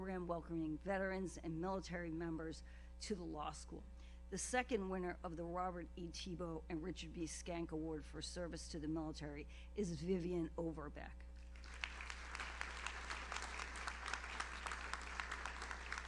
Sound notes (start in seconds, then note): 11.5 audience applauds